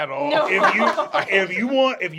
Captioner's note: laughter